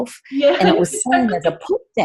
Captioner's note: laughs